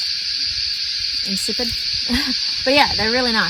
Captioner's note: laughs